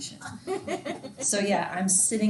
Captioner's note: student laughing